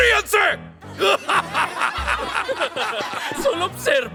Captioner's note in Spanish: Risas inseguras